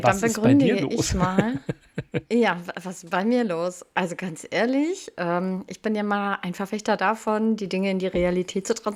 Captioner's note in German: gelächter